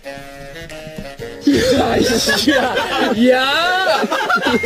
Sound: yelling automatically

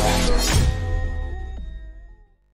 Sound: metallic sound effect

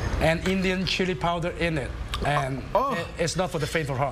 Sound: coughing

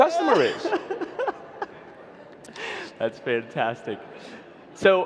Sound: laughs

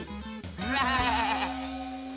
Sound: bleating

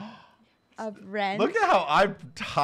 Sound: gasps

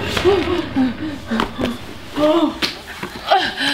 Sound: girls yelling; heavy breathing

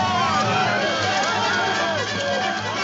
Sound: shouting

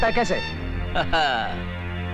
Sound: chuckles

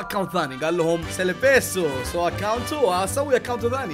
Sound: in Spanish

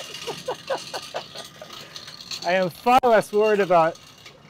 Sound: laughs; metal sliding

